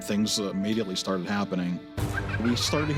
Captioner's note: children giggling